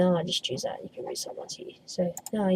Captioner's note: wispering